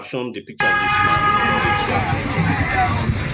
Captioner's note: car horn honking; upbeat music